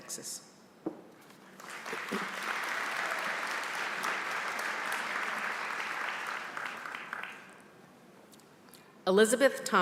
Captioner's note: applause